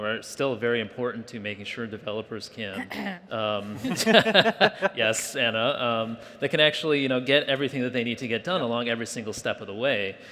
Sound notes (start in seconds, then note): 2.8 clearing throat